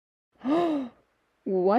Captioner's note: gasp!